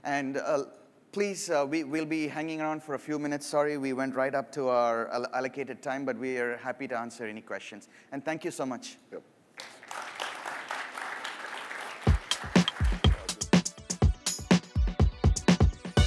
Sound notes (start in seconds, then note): 9.5 applause